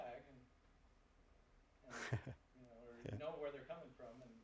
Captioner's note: laugh